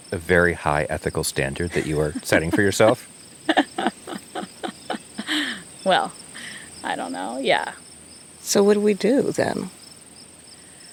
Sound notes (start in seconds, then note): 3.4 laughs